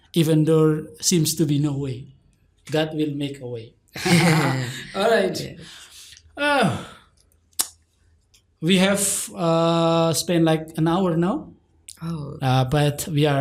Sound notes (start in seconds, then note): 3.9 chuckle